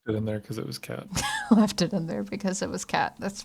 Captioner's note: laughter